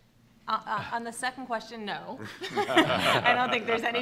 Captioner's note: laughing